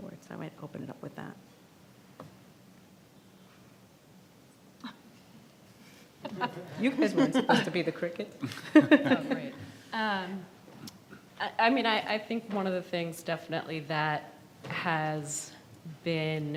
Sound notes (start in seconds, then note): 6.2 audience laughs